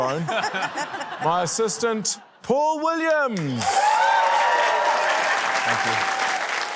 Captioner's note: laughter; cheering, applause